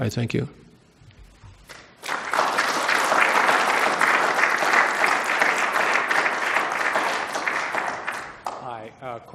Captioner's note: applause